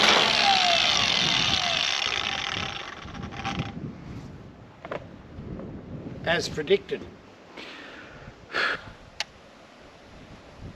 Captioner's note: grinder whirring